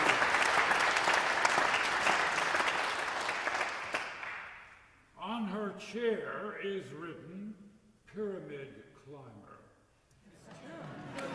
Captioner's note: applause